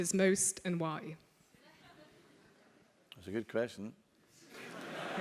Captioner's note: laugh